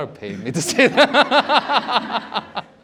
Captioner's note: laughter